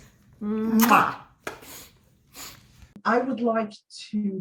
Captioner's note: kisses blowing